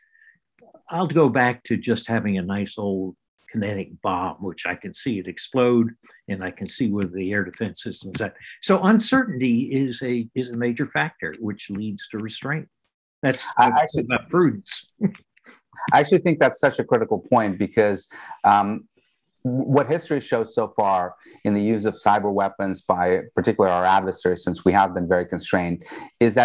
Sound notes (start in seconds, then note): 13.2 laughs